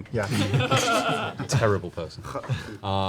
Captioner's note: laughter